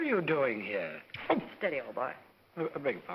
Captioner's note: slap